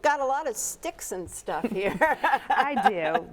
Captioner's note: laughs